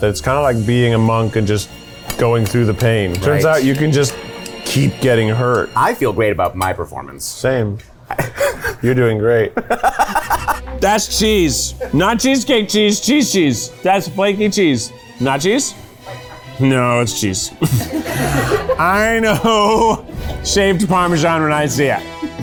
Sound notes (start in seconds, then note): 8.1 laughing; 17.5 laughing